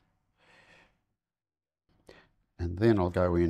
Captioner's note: silence